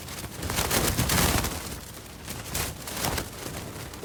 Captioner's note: very loud wind rattles against the tent walls